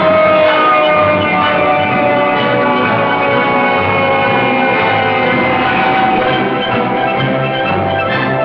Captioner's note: applause; siren